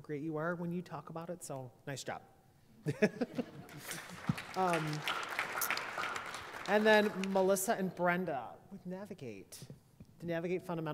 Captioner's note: applause